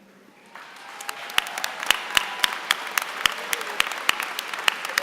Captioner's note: applause